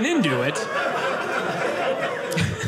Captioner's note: audience laughing